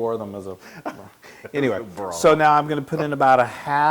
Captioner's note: laugh